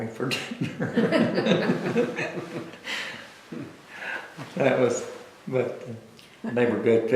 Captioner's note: laughter